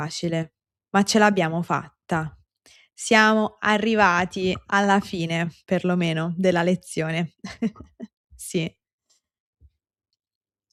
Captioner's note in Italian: risate